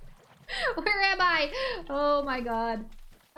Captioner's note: laughter